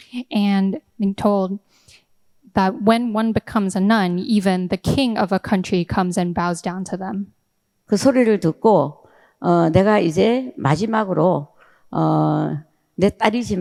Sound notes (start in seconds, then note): 7.9 speaking in foreign language